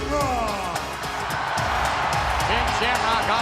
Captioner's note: audience cheering